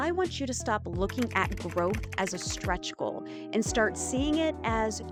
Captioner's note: keyboard clacking